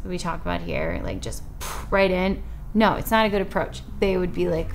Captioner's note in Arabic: ينفخ الهواء